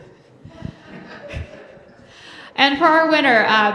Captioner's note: laughing